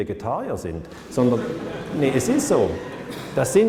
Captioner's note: laughter